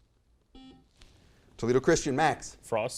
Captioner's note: buzzer noise